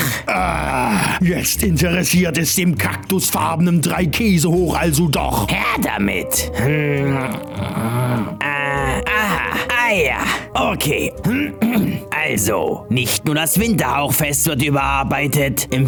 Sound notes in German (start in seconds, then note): 5.2 murmeln; 11.2 räuspern